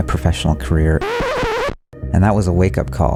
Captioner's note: record scratching